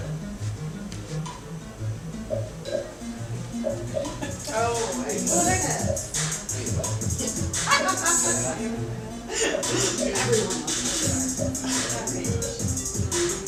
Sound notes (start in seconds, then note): 0.1 quirky music; 6.5 laughs